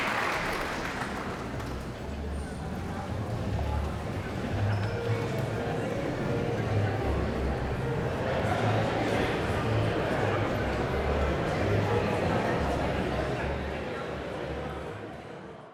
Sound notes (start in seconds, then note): 1.2 audience chattering